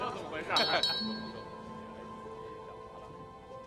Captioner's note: taps glass